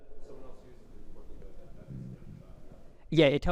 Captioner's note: audience member chattering